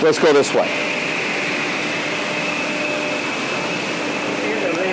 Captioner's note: motor hums